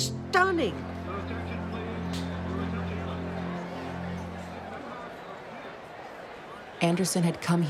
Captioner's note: crowd chatter